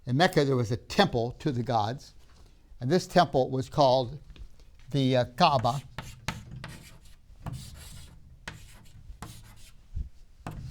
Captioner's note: chalk scraping